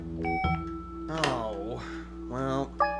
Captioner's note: beep!